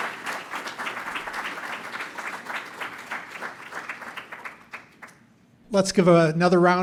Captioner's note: applause